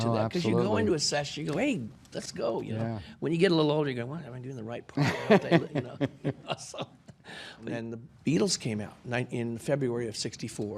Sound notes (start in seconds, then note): 5.0 laughing